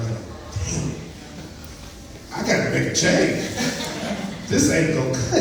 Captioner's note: laughs